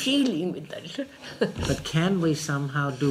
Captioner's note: laughs